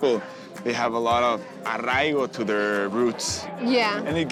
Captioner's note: speaking Spanish